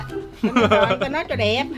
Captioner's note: laughing